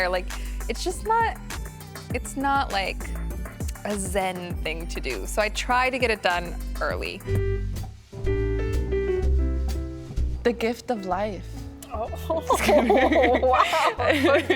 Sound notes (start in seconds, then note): 8.0 christmas music plays; 12.1 laughs; 12.2 general laughter